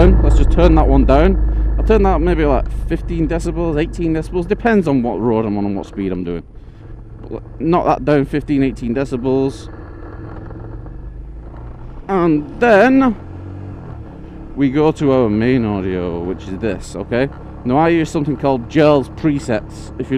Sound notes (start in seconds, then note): 1.4 engine quiets